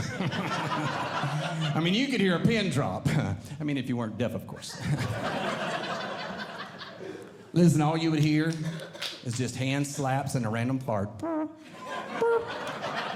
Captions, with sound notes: [Audience Laughing] I mean, you could hear a pin drop. I mean, if you weren't deaf, of course. [Audience Laughing] Listen, all you would hear is just hand slaps and a random fart. [Imitating Flatulence] [Imitating Flatulence] [Audience Laughing]